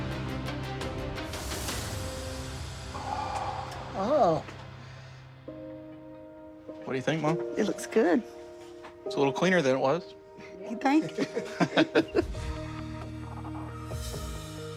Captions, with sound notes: - Oh. - What do you think mom? - It looks good. - It's a little cleaner than it was. - You think? (laughing) (uplifting music)